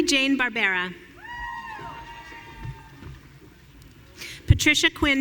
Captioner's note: audience cheering